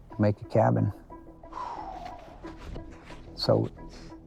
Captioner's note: sighs